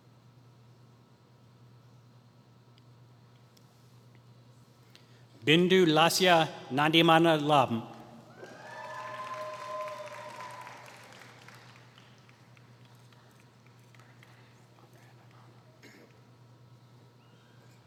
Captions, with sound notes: Bindhu Lasya Nandimandalam [Applause]